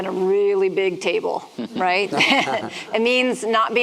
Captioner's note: chuckling